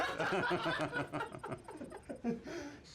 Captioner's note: laughs